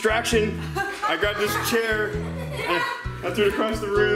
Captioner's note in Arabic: ضحك